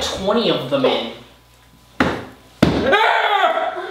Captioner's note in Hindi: हाथ मेज पर थप्पड़; चिल्ला